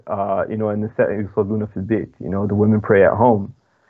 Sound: speaking foreign language

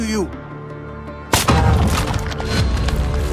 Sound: gushing

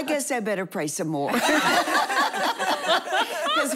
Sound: laughing

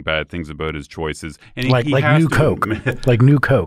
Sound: chuckle

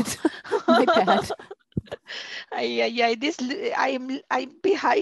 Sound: chuckling; laughter

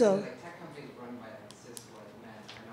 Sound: voiceover

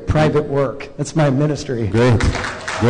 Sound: applause

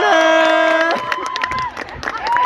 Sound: applause

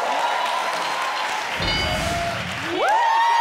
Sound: audience cheering; bell dings

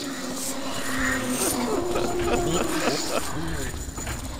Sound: laughter

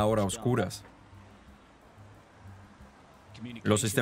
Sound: cars passing

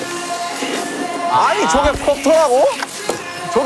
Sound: flapping

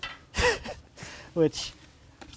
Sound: laughs

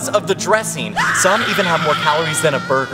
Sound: screams

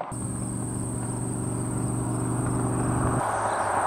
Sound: truck revving

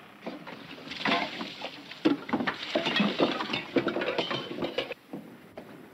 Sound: grog splattering; cups clattering

